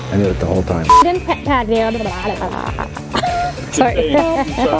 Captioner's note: laughs